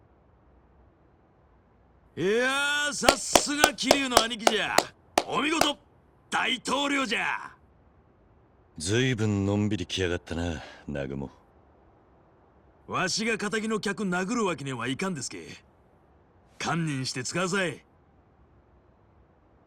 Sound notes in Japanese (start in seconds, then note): 5.5 拍手; 5.9 大歓声